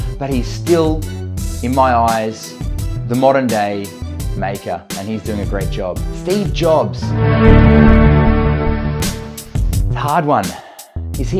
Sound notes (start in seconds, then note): 7.0 Apple startup sound